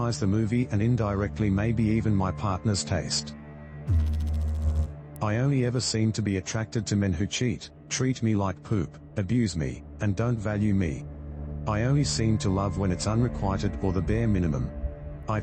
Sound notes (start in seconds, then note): 3.8 electrical noise